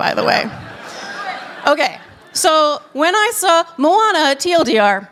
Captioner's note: laughter